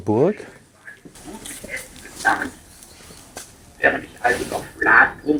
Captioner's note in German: Unverständliche Drachensprache